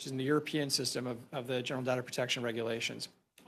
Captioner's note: speaking French